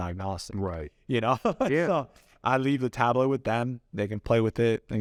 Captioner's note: laughs